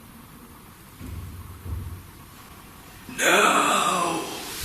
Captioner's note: footsteps thudding